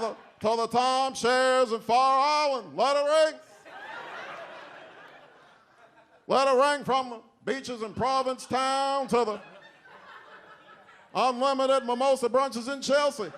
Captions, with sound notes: to the tall chairs of Fire Island, let it ring. (audience laughs) Let it ring from beaches in Provincetown, to the unlimited mimosa brunches in Chelsea,